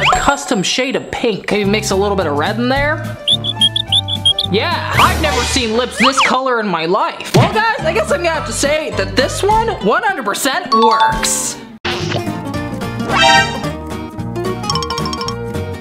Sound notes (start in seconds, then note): 3.3 squeaky sounds; 11.4 kissing sound